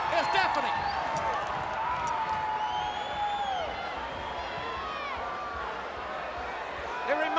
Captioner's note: crowd chatter